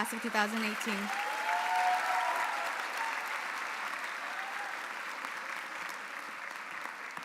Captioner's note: audience applauding; audience cheering